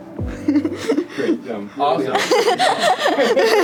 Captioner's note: interviewer laughs; laughs